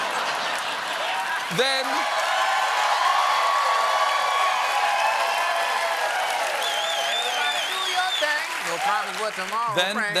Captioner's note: laughter